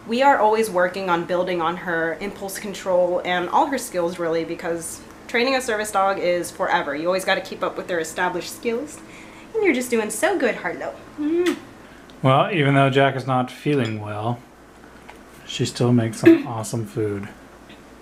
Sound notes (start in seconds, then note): 11.2 smacks a kiss